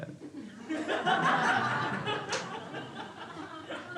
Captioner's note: crowd laughs